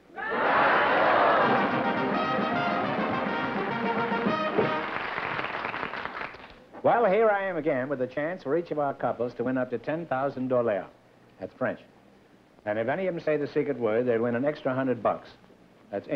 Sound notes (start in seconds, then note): 3.5 applause; 10.1 french accent